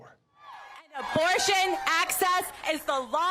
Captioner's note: cheering and applause